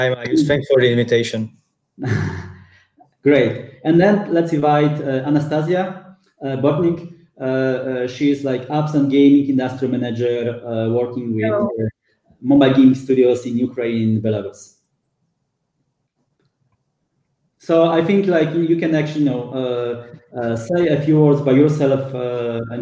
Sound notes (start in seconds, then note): 2.0 chuckles